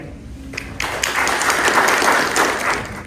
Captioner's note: applause